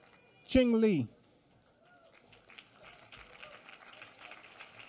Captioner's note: applause